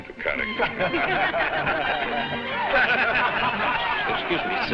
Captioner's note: crowd laughing